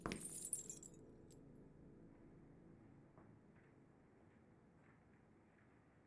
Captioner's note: chain jangling; steps plodding